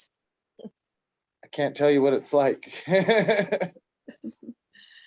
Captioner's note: laughs